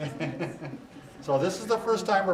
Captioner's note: laughs